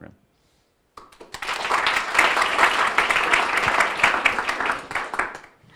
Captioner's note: audience applauding